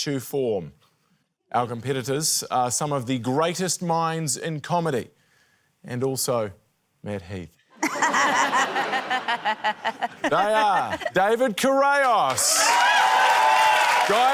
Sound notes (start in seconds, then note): 7.8 laughter; 12.0 cheering, applause